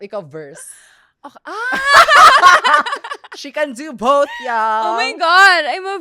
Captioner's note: laughs